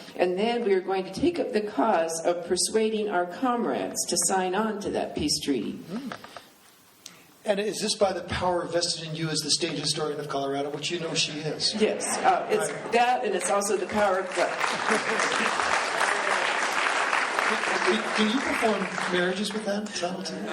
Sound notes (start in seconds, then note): 13.3 applause